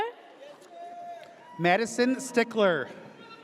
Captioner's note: audience cheers